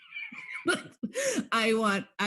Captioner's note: laughing